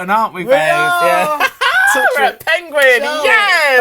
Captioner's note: laughs